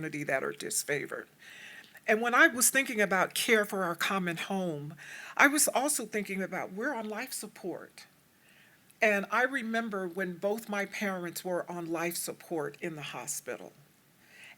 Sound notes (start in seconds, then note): none